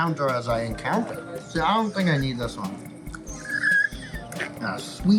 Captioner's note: wheezing laughter